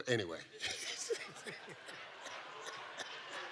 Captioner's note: all laughs